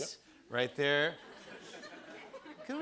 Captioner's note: laughter